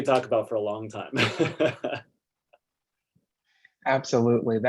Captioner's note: laughs